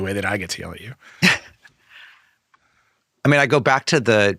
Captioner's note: laughing